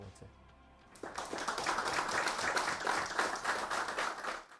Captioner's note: audience clapping